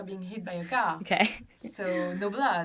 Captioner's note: laughs